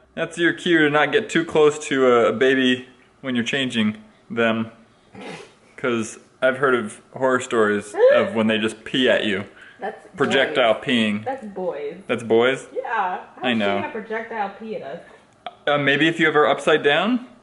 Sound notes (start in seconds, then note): 5.1 snorts; 9.8 laughs again